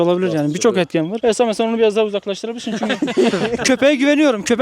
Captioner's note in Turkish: Gülüşmeler